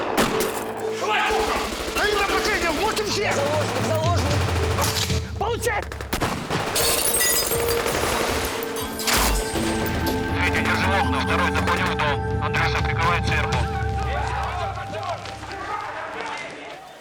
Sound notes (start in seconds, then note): 4.5 gunclicks; 5.8 gunshots